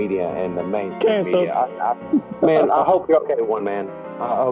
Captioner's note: giggles